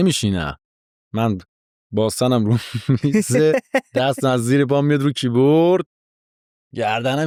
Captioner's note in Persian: خنده